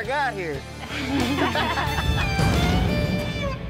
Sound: everyone laughs

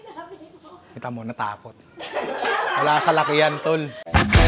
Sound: laughter; outro music

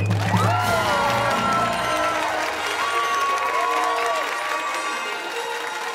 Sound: cheers and applause; fanfare

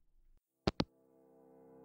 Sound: hangup

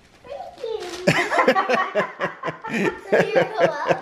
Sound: laughing

